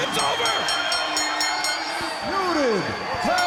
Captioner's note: bell dinging